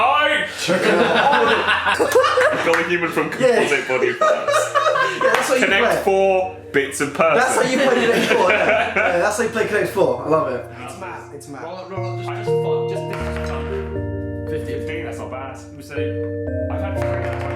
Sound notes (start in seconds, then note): 0.4 laughing; 4.2 murmurs; 5.0 soft music